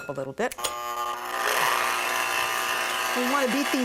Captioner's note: mixer whirring